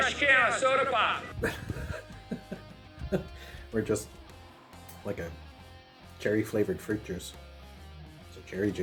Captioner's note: laughs